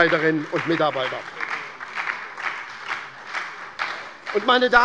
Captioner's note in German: Beifall bei der SPD